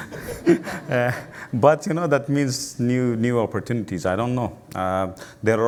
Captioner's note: laugher